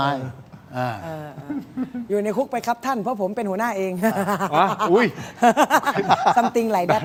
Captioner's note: laughter